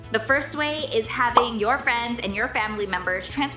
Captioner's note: bubble popping